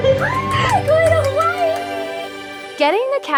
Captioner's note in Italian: esultando